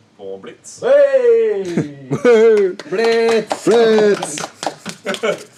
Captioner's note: extreme applause